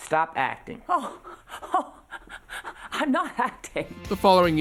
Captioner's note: laughing